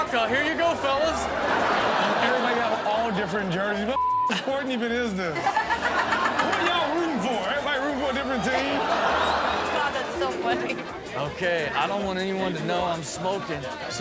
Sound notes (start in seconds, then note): 0.4 audience laughing; 4.3 Chanel and audience laughing